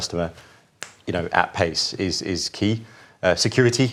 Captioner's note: snaps fingers